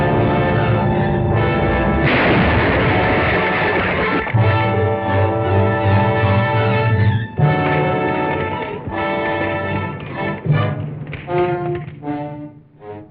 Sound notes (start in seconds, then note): 1.9 metal banging; 10.5 dramatic music